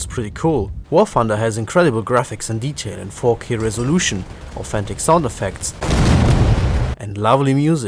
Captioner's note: boom